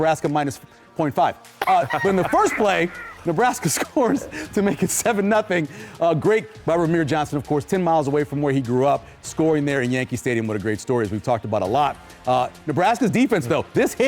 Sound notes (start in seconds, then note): 4.2 laughter